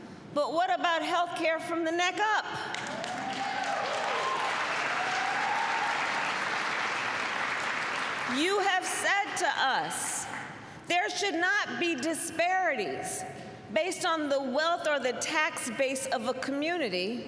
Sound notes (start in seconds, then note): 2.7 applause